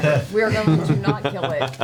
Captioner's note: laughs